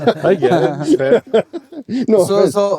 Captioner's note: laughing